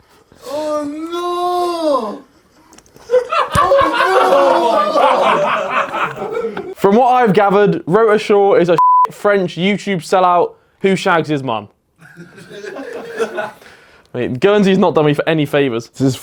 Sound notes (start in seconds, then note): 3.0 audience laughs; 8.8 beep; 12.1 audience laughs